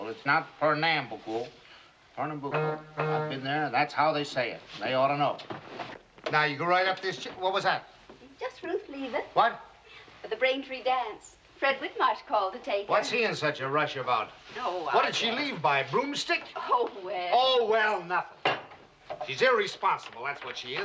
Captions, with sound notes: IT'S NOT PER NAM BUCO. [CAR HORN HONKS] THAT'S HOW THEY SAY IT. THEY OUGHT TO KNOW. NOW, GO RIGHT UP-- WHAT WAS THAT? JUST RUTH LEAVING FOR THE BRAINTREE DANCE. FRED WHITMARSH CALLED TO TAKE HER. WHAT'S HE IN SUCH A RUSH ABOUT? WHAT DID SHE LEAVE BY? BROOMSTICK? OH, WELL! OH, WELL, NOTHING! SHE'S IRRESPONSIBLE. THAT'S WHAT SHE IS.